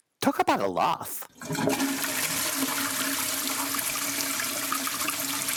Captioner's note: toilet flushes